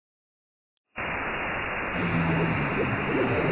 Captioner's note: static; static, weird woob-woob-woob and odd inhuman buzzing